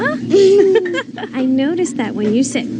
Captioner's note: laughing